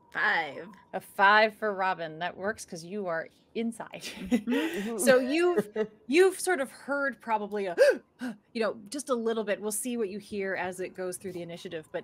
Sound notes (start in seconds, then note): 4.1 group laughing; 7.5 gasping